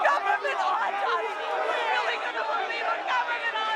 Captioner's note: crowd